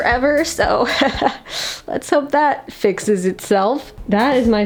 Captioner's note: laughs nervously